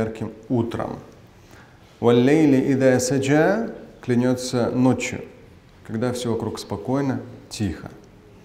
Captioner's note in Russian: Говорит на арабском